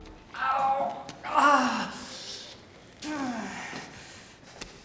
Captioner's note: groaning